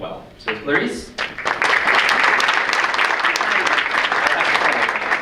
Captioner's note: audience applauds